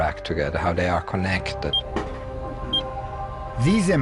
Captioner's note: beeps